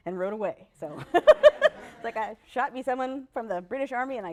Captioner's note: laughter